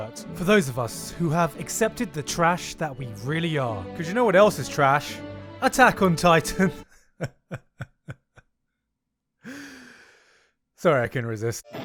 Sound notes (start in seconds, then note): 6.5 laughs at his own joke